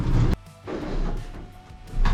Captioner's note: wood clanking